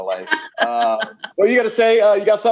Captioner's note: laughs